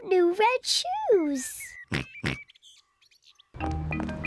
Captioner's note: oinks